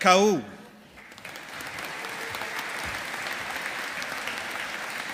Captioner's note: audience applauding